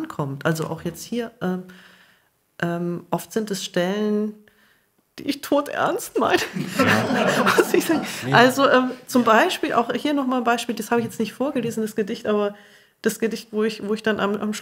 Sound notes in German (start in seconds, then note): 6.4 Publikum lacht